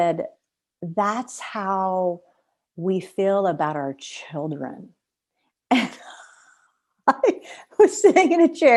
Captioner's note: laughter